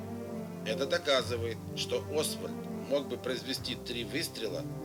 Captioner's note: speaks in foreign language